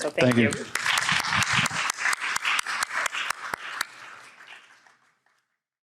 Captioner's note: audience applauding